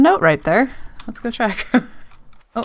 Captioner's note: laughs